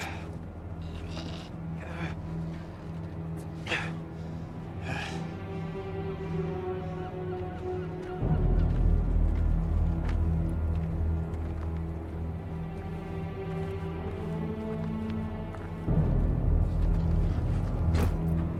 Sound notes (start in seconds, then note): 3.8 Robert breathing heavily; 5.7 dramatic orchestral music